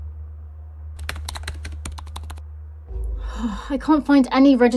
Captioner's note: keyboard clacking